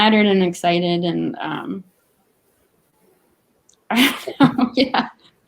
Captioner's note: laughs